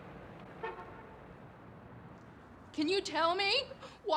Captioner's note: car horn honks